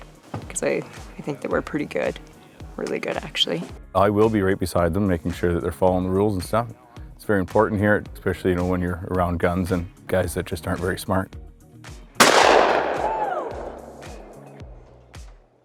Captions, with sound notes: 'cause I think that we're pretty good, really good actually. - I will be right beside them, making sure that they're following the rules and stuff. It's very important here, especially, you know, when you're around guns, and guys that just aren't very smart. (gun shooting)